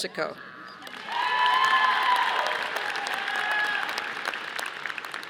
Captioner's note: audience applauding